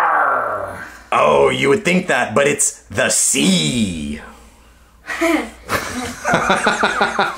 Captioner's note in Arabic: يضحك